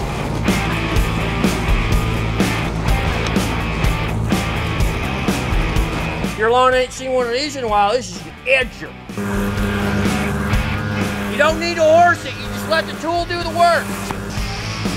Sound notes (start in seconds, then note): 0.2 rock music; 9.0 edger running; 9.4 rock music; 14.7 rock music